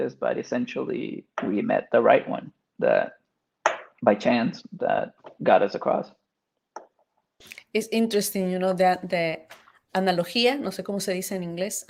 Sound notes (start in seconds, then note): 9.1 speaking Spanish